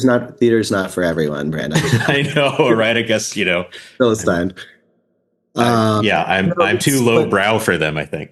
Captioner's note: both laugh